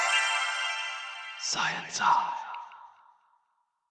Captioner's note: whispers